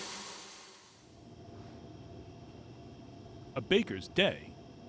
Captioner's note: engine roaring